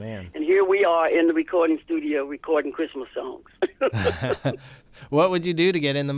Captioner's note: laughter